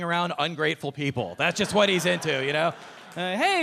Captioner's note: audience laughing